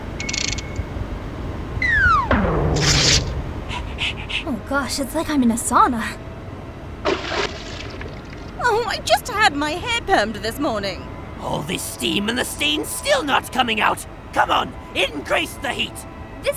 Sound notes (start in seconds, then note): 3.7 pant